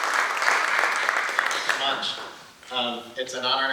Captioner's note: applause